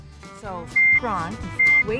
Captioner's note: beeps